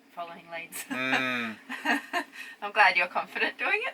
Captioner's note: laughs